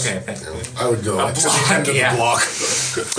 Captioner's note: laughing; laughs